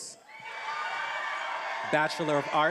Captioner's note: attendees applauding and cheering